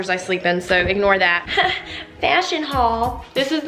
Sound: fake laugh

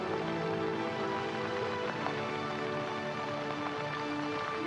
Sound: rain pattering

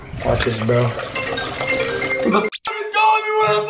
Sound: squeek

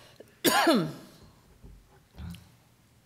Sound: coughing

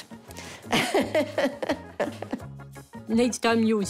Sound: laughs

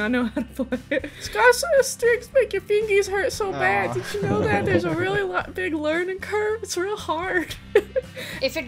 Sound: laughter

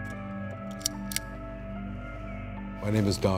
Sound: suspenseful music; lamp clicks

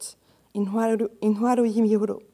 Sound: speaking in foreign language

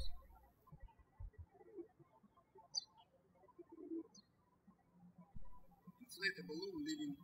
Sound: birds chirping

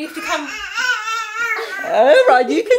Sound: cries

